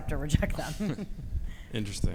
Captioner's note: both laughing